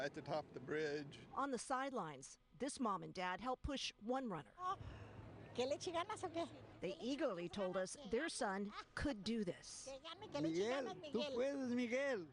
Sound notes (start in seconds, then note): 8.8 speaking in native tongue